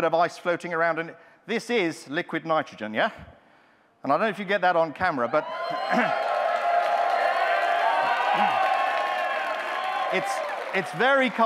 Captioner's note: audience interrupts, cheering